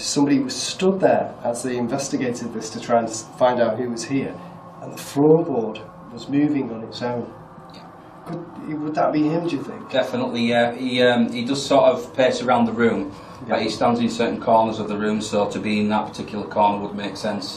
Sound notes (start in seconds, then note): none